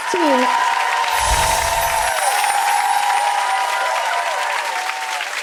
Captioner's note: audience applause continues